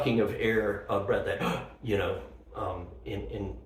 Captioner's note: gasp